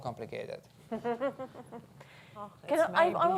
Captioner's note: laughs